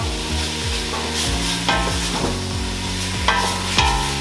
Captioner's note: ingredients sizzling